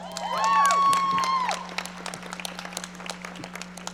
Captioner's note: audience applauding